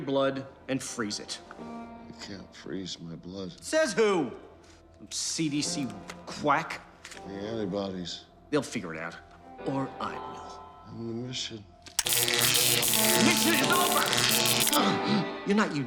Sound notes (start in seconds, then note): 11.9 zapping